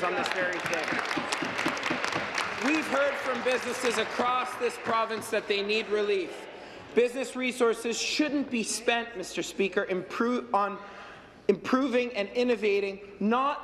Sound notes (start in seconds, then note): 6.7 applause